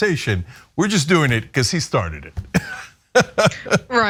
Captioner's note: laugh